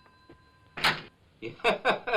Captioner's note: door opens; chuckling loudly